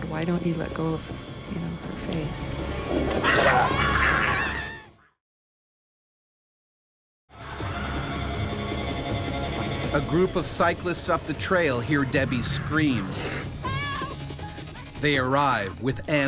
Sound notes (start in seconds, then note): 3.2 screaming; 10.1 voiceover; 15.3 voiceover